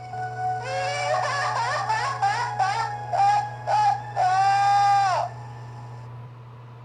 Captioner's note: sobbing